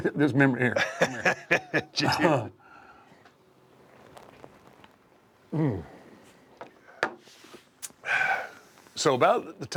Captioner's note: laugh